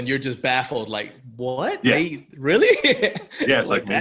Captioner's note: laughs